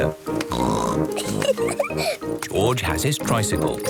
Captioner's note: snorts, giggles